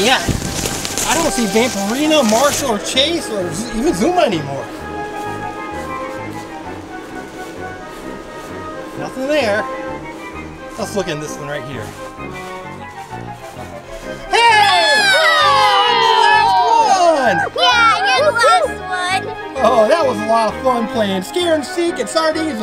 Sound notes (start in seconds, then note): 16.9 shouts